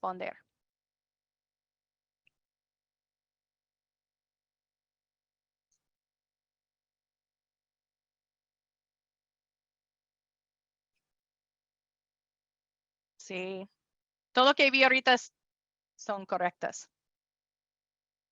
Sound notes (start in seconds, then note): 0.5 silencio; 17.3 silencio